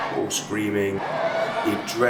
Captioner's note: more crowd cheering